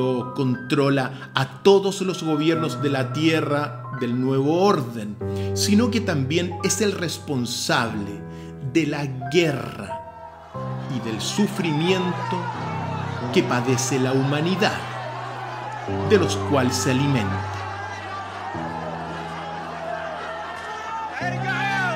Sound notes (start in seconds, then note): 16.8 screams